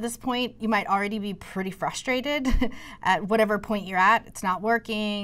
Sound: laughter

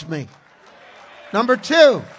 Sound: congregation cheers

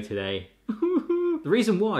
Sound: feigns crying

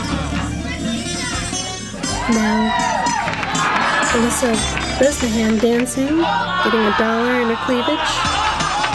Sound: applause

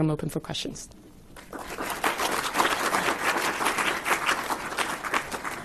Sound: audience clapping

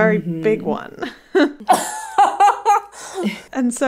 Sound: laughing

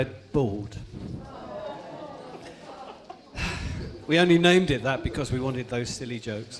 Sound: groans

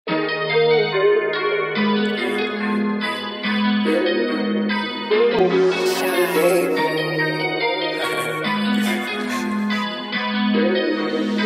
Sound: laughs

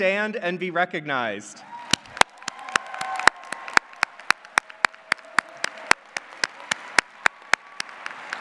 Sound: applause

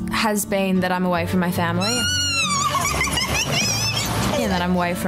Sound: squeals

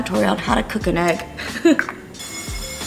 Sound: laughing

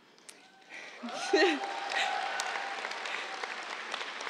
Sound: cheers, applause

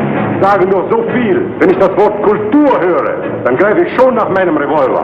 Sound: man speaking in German

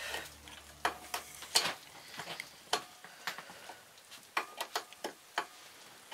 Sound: metallic noise

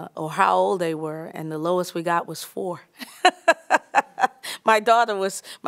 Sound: laughter

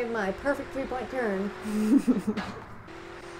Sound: laughter

